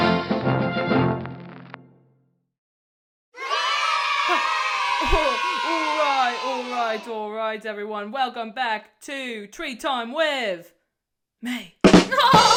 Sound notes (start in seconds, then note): 3.3 children cheering; 11.8 drum kick